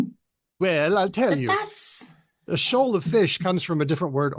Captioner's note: none